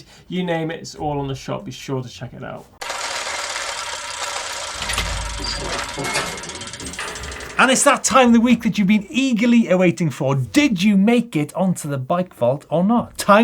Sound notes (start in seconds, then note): 3.7 gears clanking